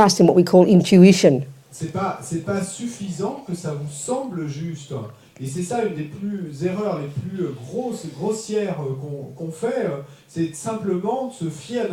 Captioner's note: French